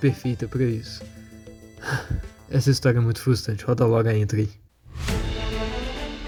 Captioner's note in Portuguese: Sigh